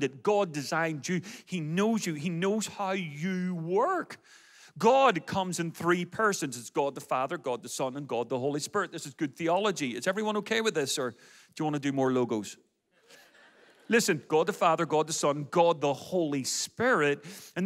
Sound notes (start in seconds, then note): 13.0 audience laughs